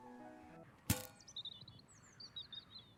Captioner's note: trash can closing; birds chirping